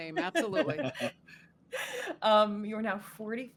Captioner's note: laughing